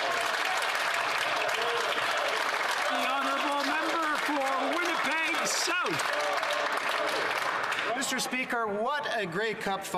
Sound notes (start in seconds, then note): 3.1 some Applause